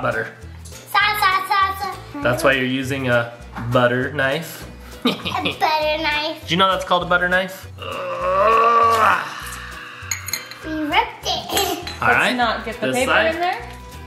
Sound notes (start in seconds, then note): 7.8 dad grunting